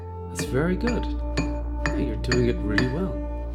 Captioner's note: chisel chinks against stone